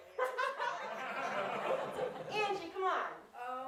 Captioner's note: audience laughs